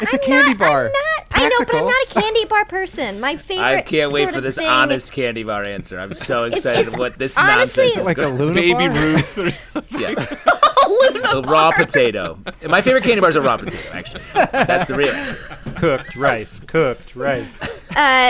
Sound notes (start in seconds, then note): 11.5 laughter; 16.2 chanting